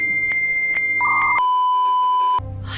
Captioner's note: beeeeeeeeeeeep